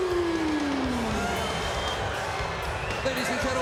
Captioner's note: crowd cheering